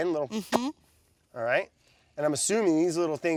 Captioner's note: lip smacks